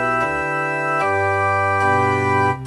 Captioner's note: none